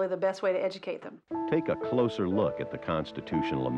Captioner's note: voiceover